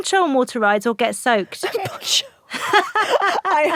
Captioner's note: both laugh